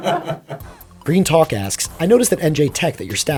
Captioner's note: laughter; voiceover